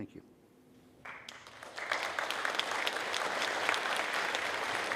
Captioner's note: audience clapping